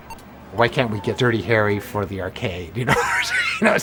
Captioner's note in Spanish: Ríe